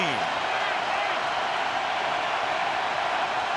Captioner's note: crowd cheering